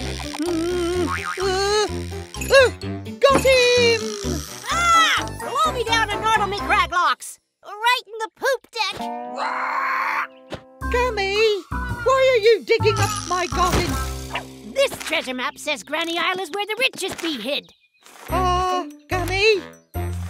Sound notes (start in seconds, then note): 1.0 boing; 9.4 squawk